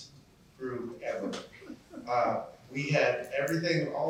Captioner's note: chuckle